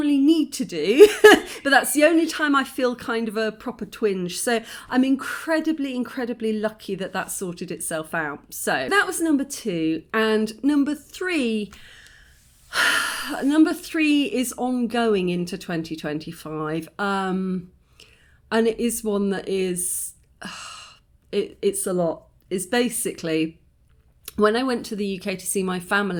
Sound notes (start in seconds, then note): 1.0 laughing; 12.3 deep sigh